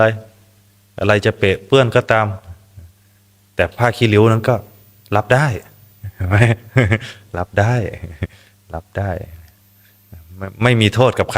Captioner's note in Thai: เสียงหัวเราะ